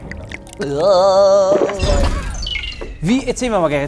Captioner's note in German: Gluckern, Schlucken, Husten